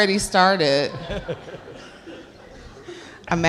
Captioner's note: laughs